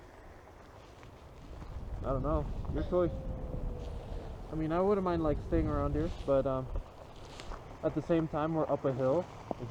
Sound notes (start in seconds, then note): 2.4 louder wolf howl